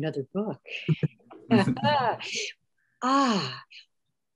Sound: laughs

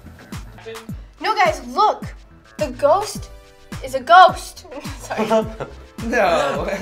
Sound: laughs

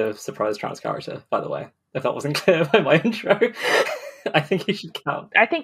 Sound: laughing

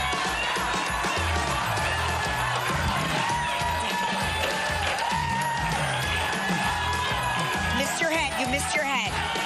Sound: audience applauding

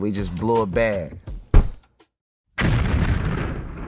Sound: bomb

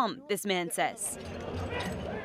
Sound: speaking foreign language

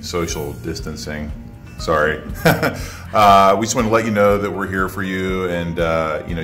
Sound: laugh

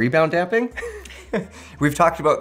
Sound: both laughs

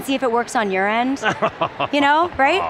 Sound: chuckling

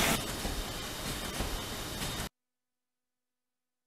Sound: cutting

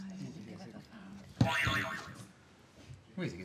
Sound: boing

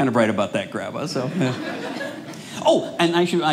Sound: audience laughing

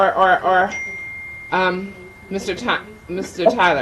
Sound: bell dings

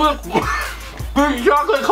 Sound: coughing

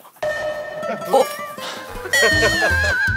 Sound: sighing

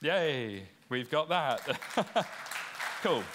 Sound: applause

